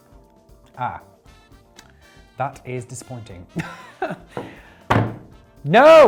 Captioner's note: laughs